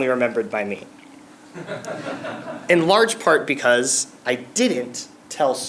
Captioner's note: laugh